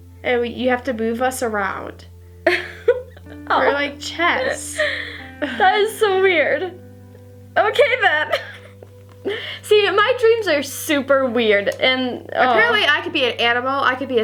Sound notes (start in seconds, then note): 3.4 laughs